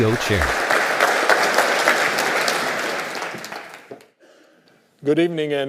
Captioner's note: audience clapping